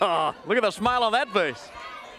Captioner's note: crowd chatter